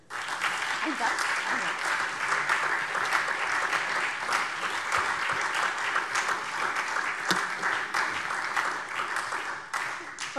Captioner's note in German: Beifall SPD